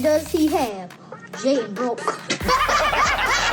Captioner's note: laughs; all laughing